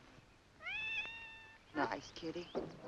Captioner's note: cat meows